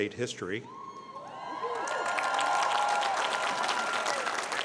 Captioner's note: cheering